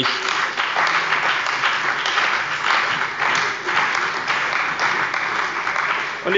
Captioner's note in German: Beifall bei dem BÜNDNIS 90/DIE GRÜNEN und der CDU